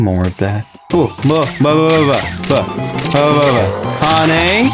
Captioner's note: mating Call